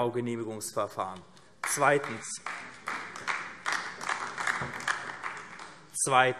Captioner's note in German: Beifall AfD